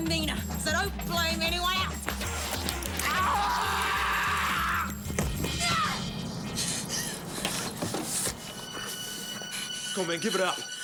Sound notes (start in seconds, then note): 3.0 Graham screams; 5.5 Jodie yells